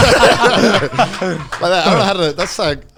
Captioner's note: all laughing